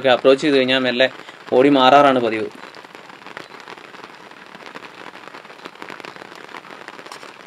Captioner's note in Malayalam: കരഘോഷം